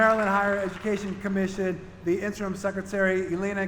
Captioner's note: applause